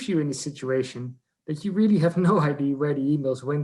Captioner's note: laughs